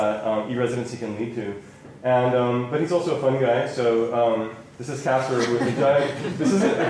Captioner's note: laughter